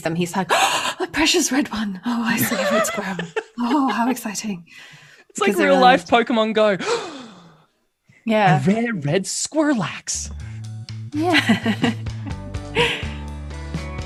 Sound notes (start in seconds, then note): 2.3 laughter; 6.8 gasps; 11.8 transition music